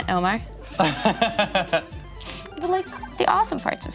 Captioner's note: laughs